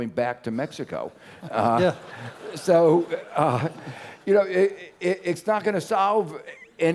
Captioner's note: laugh